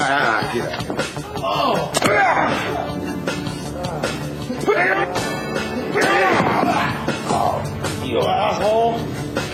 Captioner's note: grunting